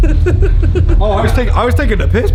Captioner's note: laughing